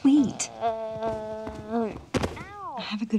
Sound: loud thud

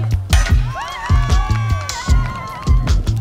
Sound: applause

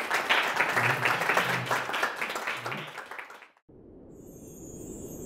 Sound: applause

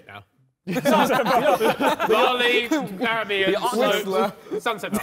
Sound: men laughing

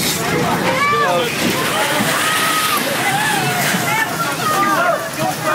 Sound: windows breaking; rain pelting; wind rushing; woman wailing

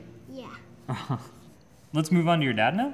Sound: laughs

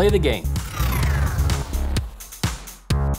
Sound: loud whooshing

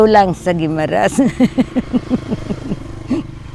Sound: laughs

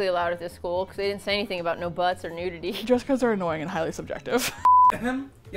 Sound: laughs

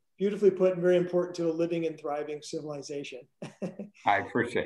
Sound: laughs

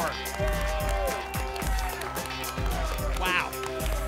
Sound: applause and cheering cont

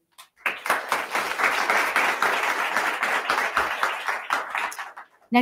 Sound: attendees clapping

